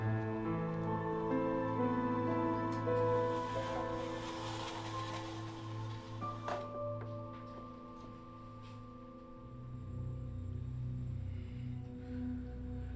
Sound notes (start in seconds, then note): 3.2 blinds rustling; 9.8 suspenseful music